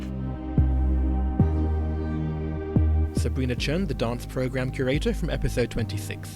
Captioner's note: voiceover